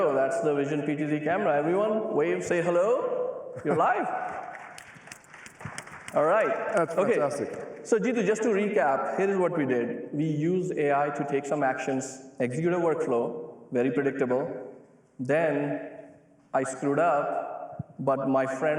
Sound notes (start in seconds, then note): 3.9 applause